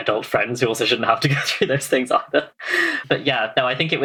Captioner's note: laughs